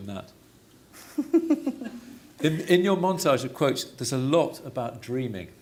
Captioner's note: laughs